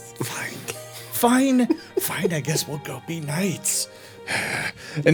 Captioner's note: sighing